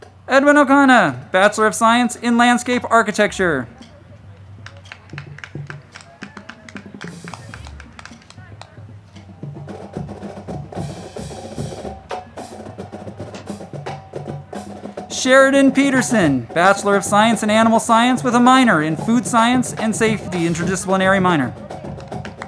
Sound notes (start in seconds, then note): 4.2 crowd clapping; 4.7 band music